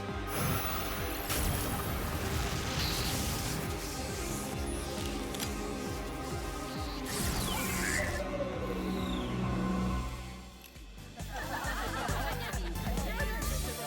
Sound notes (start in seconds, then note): 0.0 whoosh; 8.0 beeps